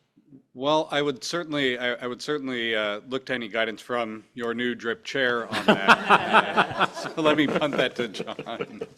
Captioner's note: laughter